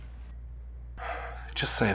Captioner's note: sigh